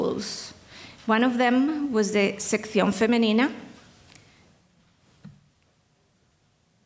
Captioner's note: speaking in foreign language